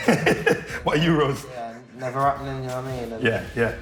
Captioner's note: laughing